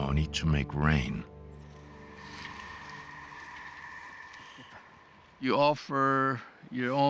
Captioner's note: puffing